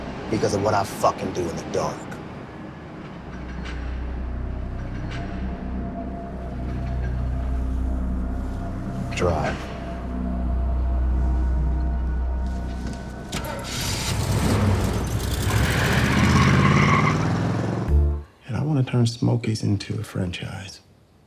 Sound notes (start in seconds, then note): 3.3 tense music continues; 10.5 tense music continues; 13.4 engine rumbling